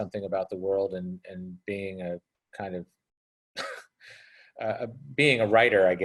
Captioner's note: chuckles